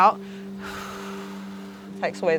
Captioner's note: exhales air